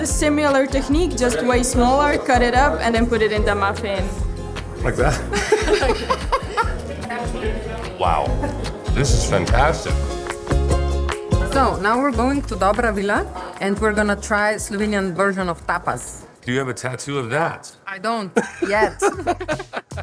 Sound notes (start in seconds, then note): 5.1 laughs; 10.0 light music; 18.3 laughing